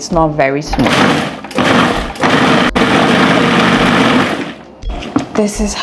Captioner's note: food processor sound